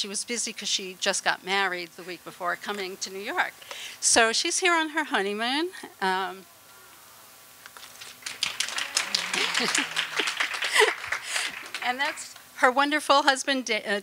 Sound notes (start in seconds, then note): 7.8 applause; 9.0 laughter